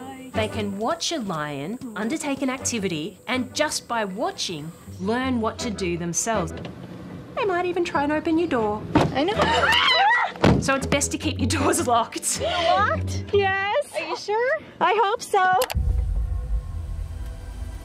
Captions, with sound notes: They can watch a lion undertake an activity and just by watching, learn what to do themselves. They might even try and open your door. (SCREAMS) So, it's best to keep your doors locked. Is it locked? Yes. Are you sure? I hope so.